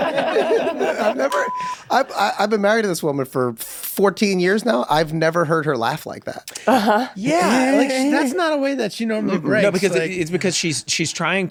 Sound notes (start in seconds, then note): 0.0 laughs; 0.0 group laughs